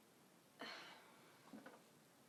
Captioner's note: sighs